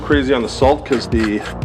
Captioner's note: salt grinding; pepper grinding